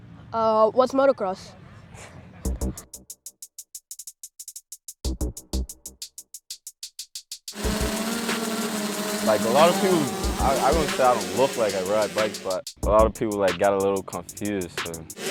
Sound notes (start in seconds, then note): 1.5 chuckles; 2.4 rap instrumental